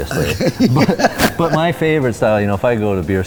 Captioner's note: laughs